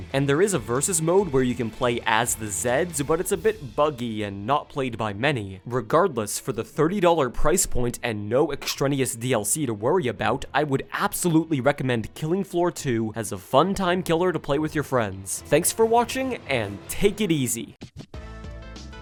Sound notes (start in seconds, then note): none